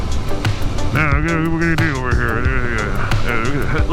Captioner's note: mumbling/mocking workers